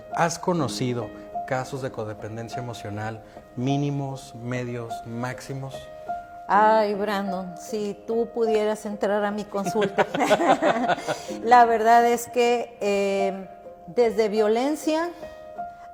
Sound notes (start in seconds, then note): 9.6 both laugh